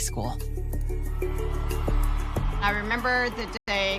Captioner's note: crowd cheering